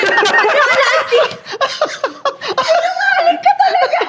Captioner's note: laughs